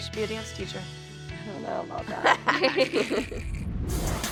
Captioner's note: laughs; funky, upbeat music playing